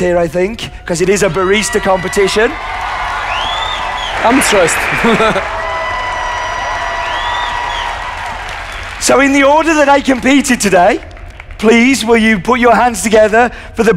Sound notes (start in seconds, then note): 6.8 cheers and applause